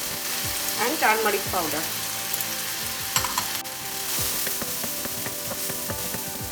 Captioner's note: oil sizzling